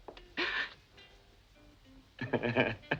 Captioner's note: Brigitte gasps; Christian laughing